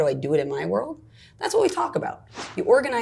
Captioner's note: air snaps